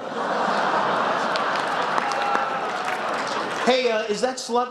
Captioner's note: laughter, a groan